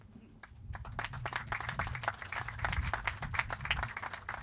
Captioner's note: clapping